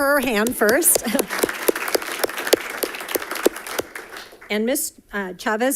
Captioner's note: audience applauding